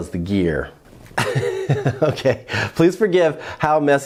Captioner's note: chuckles